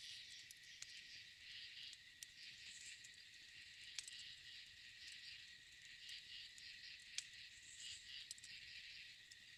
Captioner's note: crickets & forest sounds